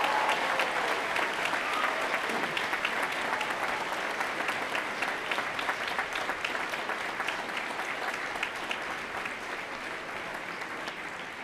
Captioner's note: applause